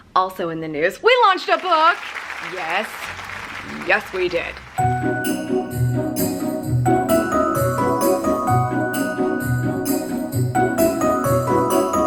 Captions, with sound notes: Also in the news, we launched a book! (applause) Yes, yes we did. (uplifting music)